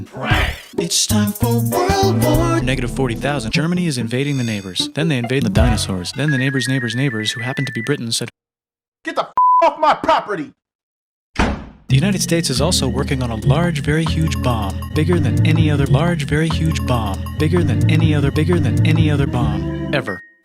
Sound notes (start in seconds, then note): 11.2 slams door